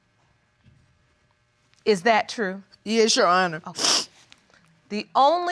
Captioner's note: sniffs